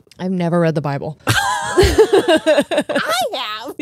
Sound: both laughing

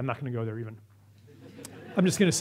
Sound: audience laughs

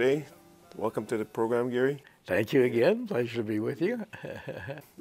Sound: he chuckles

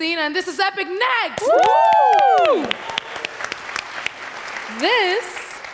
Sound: performers cheering

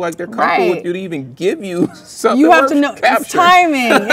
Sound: laughs

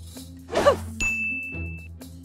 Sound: whoosh; bell dings

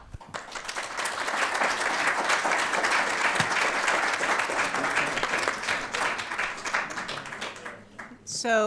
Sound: audience Applause

